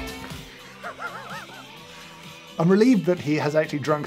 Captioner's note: laughs